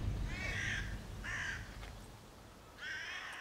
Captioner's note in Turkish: Karga sesleri